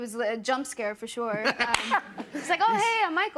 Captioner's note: laughter